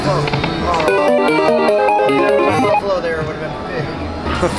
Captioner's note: machine beeping